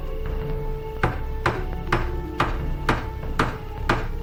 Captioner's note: hammer banging